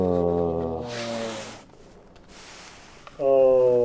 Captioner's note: grunting